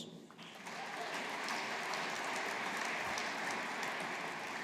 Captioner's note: audience applauding